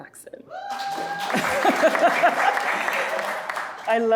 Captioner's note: audience applauding